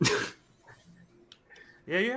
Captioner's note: laughs